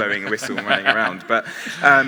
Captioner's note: others laughing